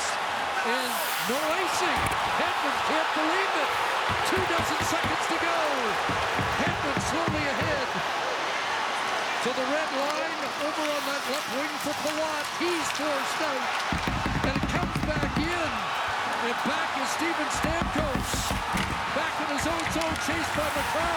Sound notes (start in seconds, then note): 6.5 booing